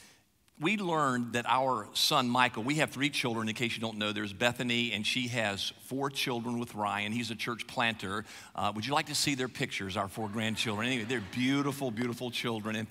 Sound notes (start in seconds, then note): 10.2 audience laughs